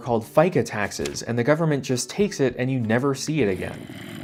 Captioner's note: zombie growl